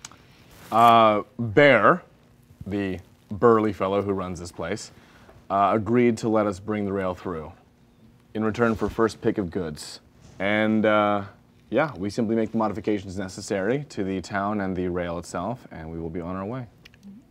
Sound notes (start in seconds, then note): none